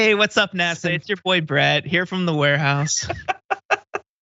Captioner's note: laugh